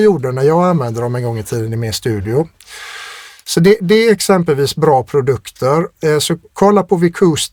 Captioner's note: scoffs